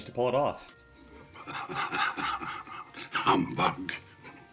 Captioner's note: chuckling